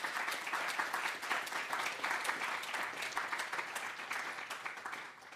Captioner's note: applause